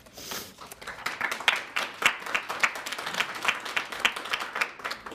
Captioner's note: audience clapping